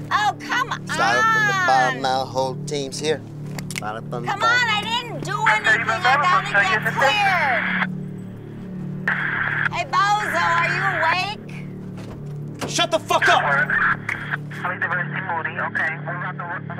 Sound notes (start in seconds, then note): 9.0 radio static; 14.1 radio call